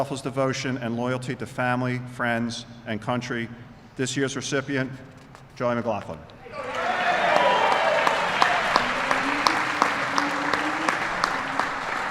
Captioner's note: applause